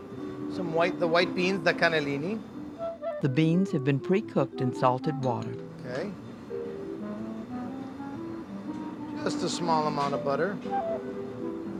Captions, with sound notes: Some white beans, the cannellini. - [Voiceover] The beans have been precooked in salted water. - Just a small amount of butter.